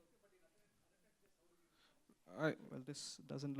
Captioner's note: silence